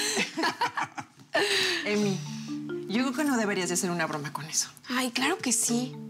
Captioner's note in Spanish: risas